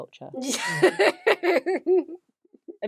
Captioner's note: laughs